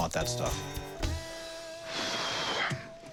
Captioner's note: sighs